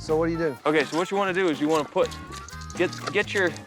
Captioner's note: none